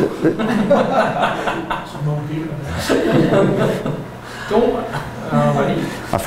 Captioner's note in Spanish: risas